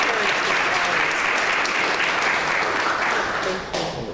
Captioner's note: clapping